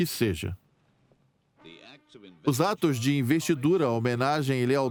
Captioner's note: voiceover